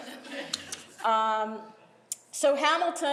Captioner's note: laughing